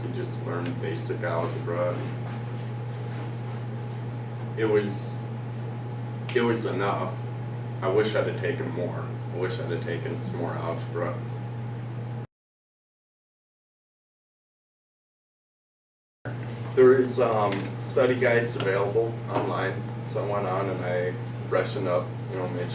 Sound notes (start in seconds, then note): 12.2 silence